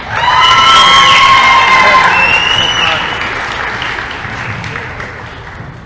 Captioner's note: applause & cheering